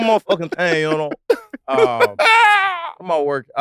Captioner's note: laughs